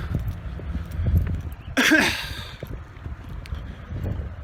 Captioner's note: clears her throat